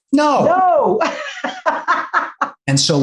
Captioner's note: laughs